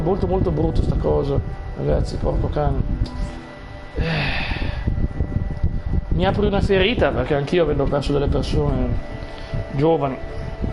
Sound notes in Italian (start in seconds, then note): 3.9 sospiri